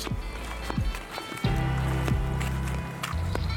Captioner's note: feet thumping